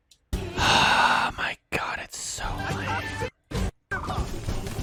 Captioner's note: more loudly but still under his breath